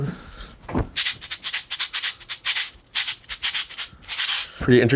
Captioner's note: rattle clanging